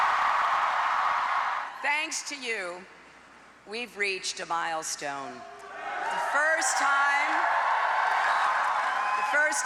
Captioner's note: cheers and applause